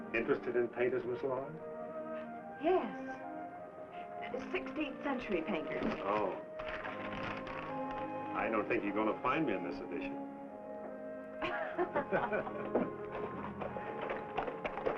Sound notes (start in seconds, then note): 11.4 laughs